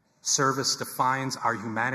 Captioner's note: none